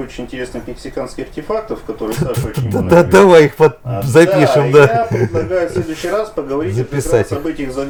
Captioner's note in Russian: смех